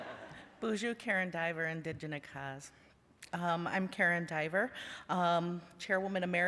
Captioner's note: laughter; non-english speech